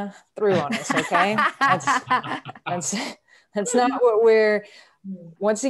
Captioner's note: laughing